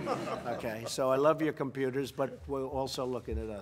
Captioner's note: laughter